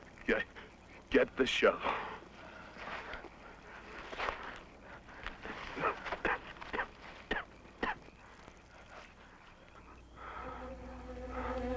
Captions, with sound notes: - Get, get the shovel. (John coughing) (John panting)